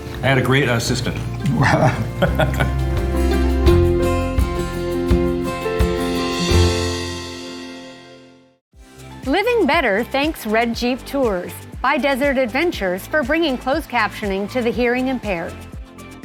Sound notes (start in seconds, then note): 1.4 chuckling; 3.1 pleasant music